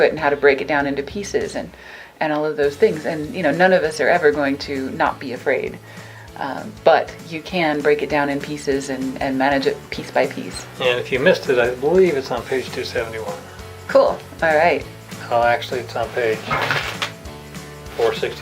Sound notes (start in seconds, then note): 16.3 book rustling